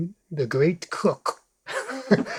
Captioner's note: laughs